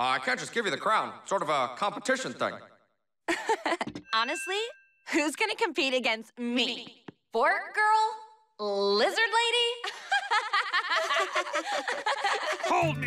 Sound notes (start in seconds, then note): 3.1 laughs; 9.9 laughing